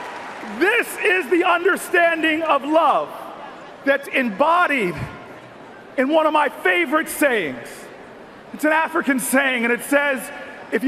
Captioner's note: cheers and Applause